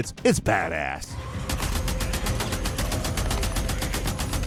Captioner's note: gun blasting; zombies moaning; tense dramatic music